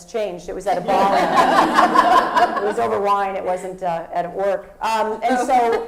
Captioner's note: laugh